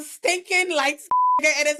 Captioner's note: beep